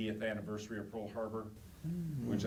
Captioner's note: audience oohs